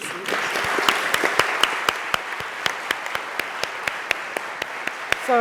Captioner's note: audience applauding